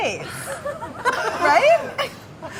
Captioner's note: laughing